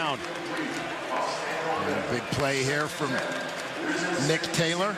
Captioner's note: indistinct chatter